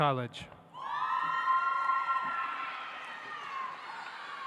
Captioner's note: audience applauds